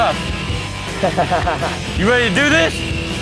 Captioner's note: laughing